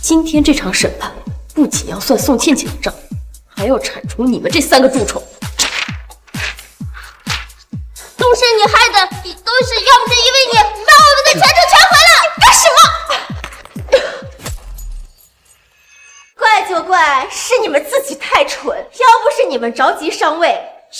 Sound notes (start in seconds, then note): 12.7 cough